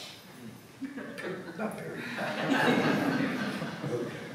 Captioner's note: laughter